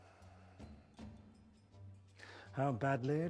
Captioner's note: sighs